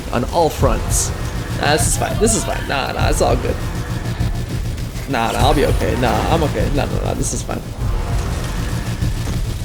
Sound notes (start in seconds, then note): 1.5 nervous rambling